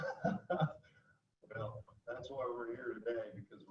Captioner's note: laughing